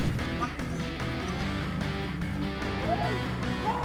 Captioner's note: gunshots